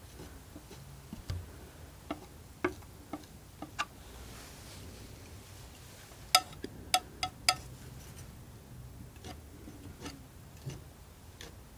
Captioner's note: scratching